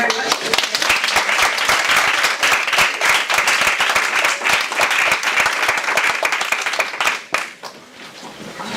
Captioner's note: audience applause